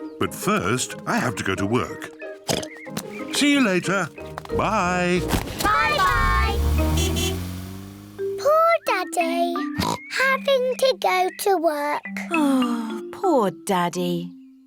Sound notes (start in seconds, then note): 2.5 oinks; 4.6 toots horn; 9.7 oinks